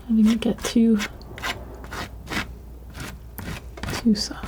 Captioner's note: scratching